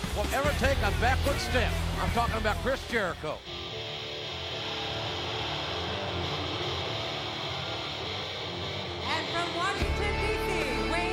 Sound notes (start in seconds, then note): 3.6 crowd cheering; 3.6 upbeat rock music